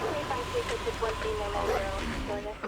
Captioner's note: dog barking; radio chattering